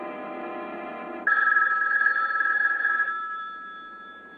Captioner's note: phone ringing